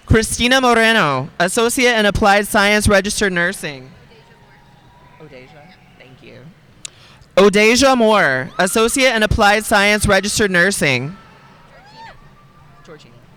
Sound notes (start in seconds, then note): 5.0 speaking faintly